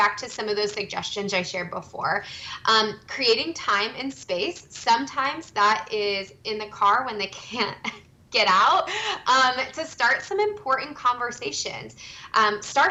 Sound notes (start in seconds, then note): 9.0 chuckles